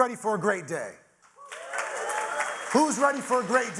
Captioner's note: audience applauding; audience cheering